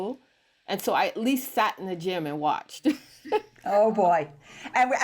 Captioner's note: laughs